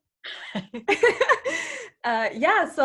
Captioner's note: laughing